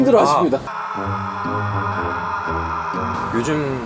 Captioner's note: screaming